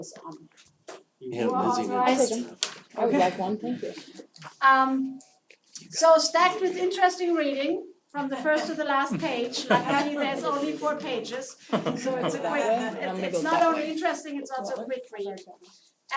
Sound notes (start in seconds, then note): 11.6 laugh